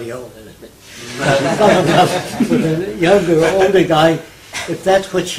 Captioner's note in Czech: smích